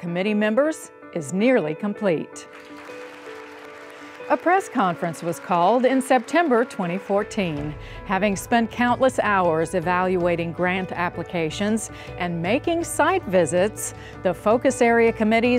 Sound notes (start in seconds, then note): 2.4 applause